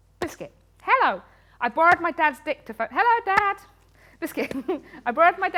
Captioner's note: laughs